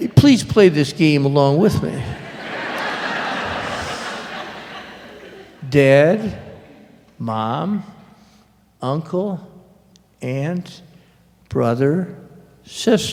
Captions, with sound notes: Please, play this game along with me! [louder laughter] [counting off] "Dad? Mom?" "Uncle? Aunt? Brother? Sister?"